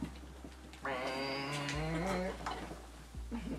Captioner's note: groaning